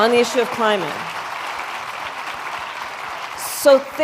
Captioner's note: applause